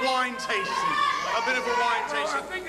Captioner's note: crowd yells